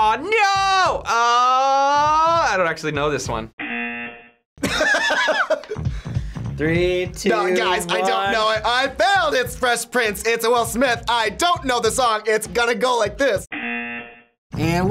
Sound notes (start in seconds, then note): 3.8 buzzer rings; 4.6 laughs; 13.7 buzzer rings